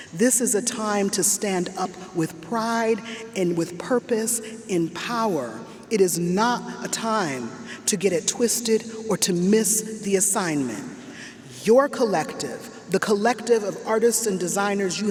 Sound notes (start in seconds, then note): none